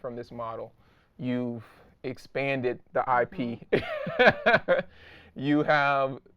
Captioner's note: laughing